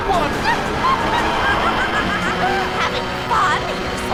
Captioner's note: cackling